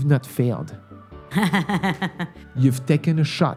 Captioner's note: laughs